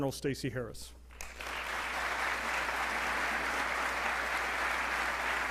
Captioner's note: audience applauding